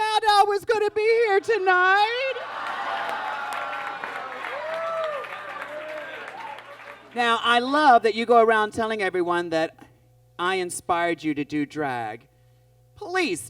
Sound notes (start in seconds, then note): 2.4 audience groans